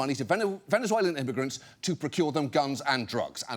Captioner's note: none